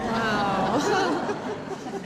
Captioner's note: chuckles